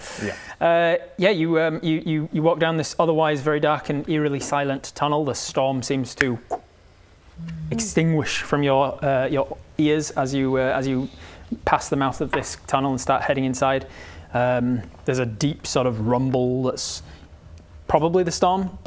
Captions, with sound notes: Yeah. Yeah, you walk down this otherwise very dark and eerily silent tunnel. The storm seems to *snap* extinguish from your ears as you pass the mouth of this tunnel and start heading inside. There's a deep sort of rumble that's probably the storm